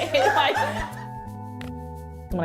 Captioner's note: laughter